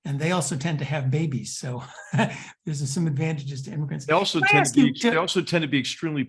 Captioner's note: laugh